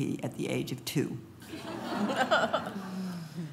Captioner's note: laughing